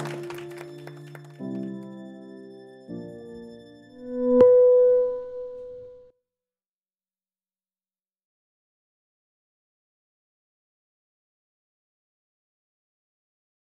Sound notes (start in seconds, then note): 0.0 soft music; 3.9 electronic tones